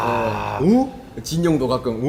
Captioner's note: wooooow